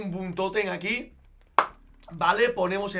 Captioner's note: claps in Spanish